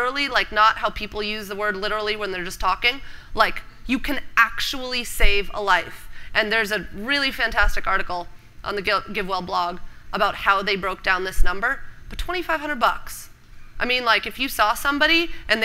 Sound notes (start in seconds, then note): none